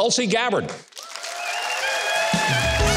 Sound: audience claps and cheers

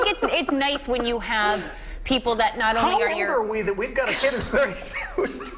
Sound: laughter

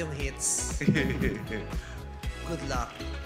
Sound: laughing

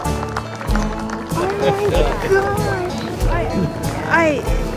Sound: Sadhguru chuckles

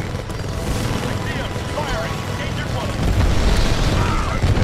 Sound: radio

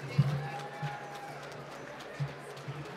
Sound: applause

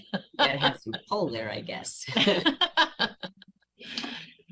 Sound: laughter

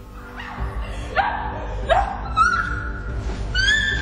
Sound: screaming

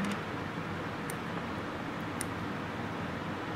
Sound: clipping sounds

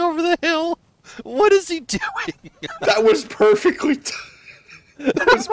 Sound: laughter

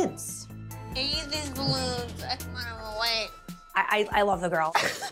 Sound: Snooki speaking gibberish

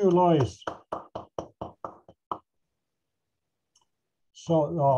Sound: applause

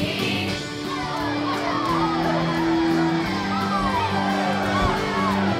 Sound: performers whooping

